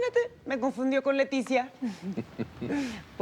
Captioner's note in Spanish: Risas